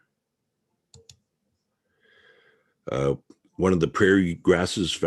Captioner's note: mouse clicking